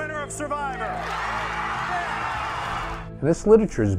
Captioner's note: people cheering and clapping